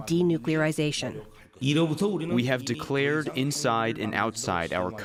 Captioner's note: through translator